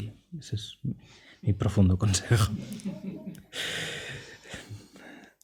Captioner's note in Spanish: risas